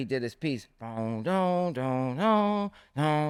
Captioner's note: hums